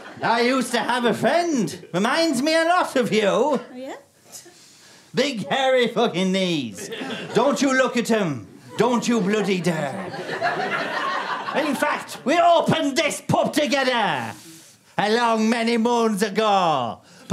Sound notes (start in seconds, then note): 8.5 audience laughter